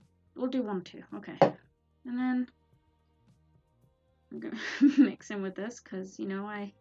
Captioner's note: laughs